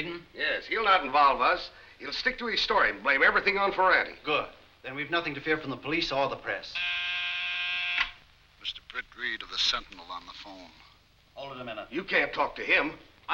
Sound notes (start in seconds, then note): 6.7 buzzing